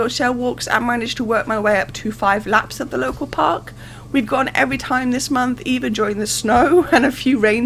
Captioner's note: laughing